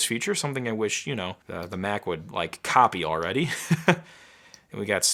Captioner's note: chuckling